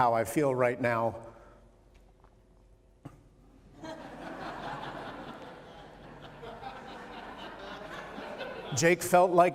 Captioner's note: laughter